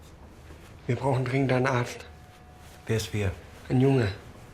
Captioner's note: in German